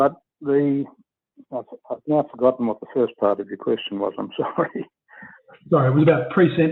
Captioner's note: laughs